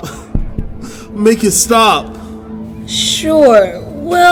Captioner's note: the heartbeats become softer and softer